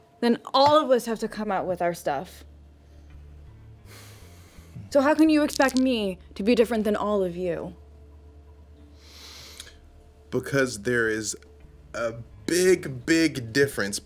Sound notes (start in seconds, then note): 3.9 sighs